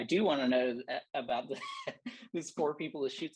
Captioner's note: laughter